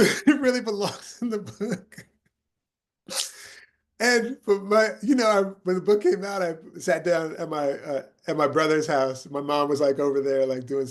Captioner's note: laughing